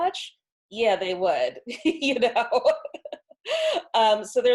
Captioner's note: laughs